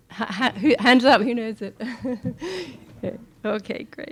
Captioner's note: laughing